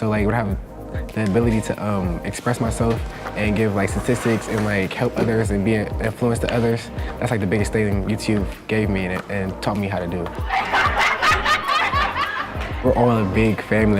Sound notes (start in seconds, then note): 10.4 laughter